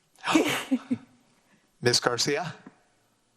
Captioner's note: laughs